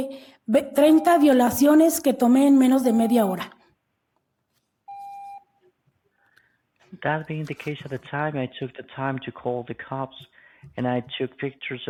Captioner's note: speaking non-english language